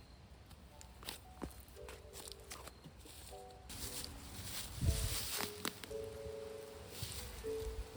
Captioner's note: crunchy leaf ASMR